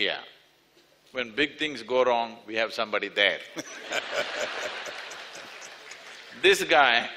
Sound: laughter

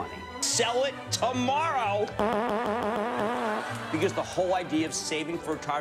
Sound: fart noise

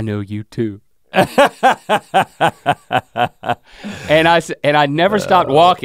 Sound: Rhett laughs

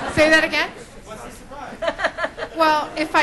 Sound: voiceover

